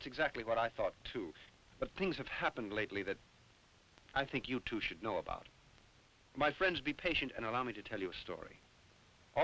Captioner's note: none